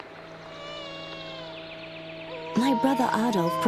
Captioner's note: baby cries